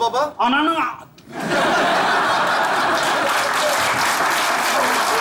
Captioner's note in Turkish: Kahkaha ve alkış sesleri